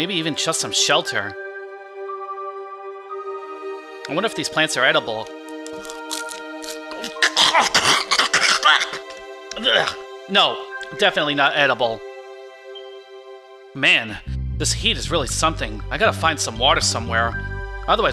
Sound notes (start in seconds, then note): 5.4 crunching; 6.7 gagging; 8.3 spitting